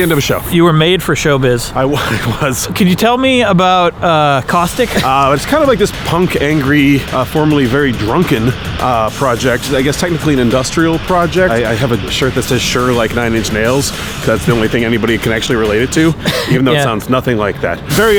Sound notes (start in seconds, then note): 1.8 chuckles